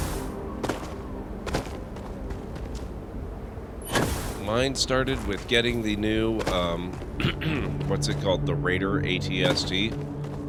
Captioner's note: gunshots